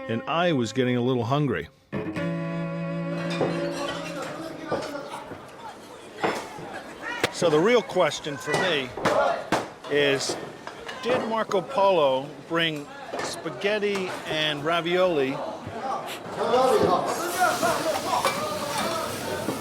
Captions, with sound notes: And I was getting a little hungry. [utensils clattering] So the real question for me is, did Marco Polo bring spaghetti and ravioli